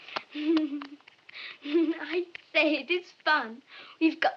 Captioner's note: chuckles